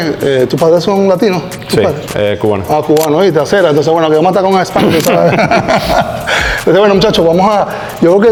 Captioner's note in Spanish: risas